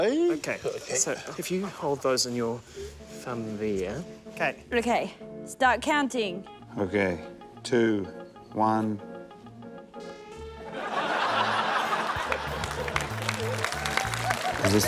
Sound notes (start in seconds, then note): 10.7 laughter; 12.0 applause